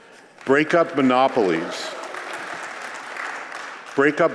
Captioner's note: applause